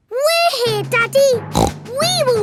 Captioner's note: snorts